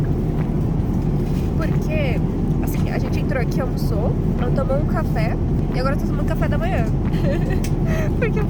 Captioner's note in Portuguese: risos